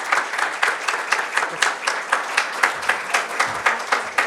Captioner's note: applause